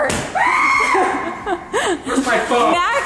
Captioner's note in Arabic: صراخ طفل